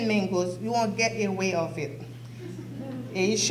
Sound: soft audience laughter

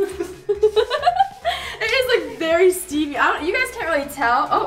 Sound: laughs

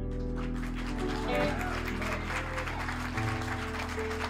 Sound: cheers and applause

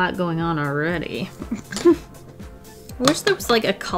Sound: chuckles

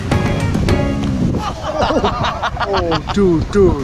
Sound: laughing

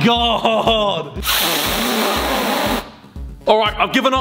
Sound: blows

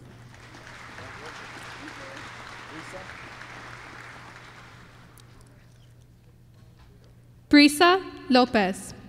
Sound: applause

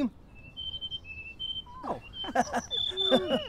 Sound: bird chirping

